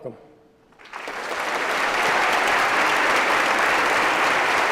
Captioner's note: applause